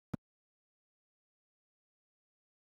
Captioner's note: audio cuts out